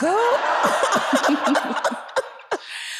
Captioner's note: laughs